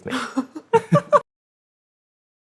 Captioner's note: laughter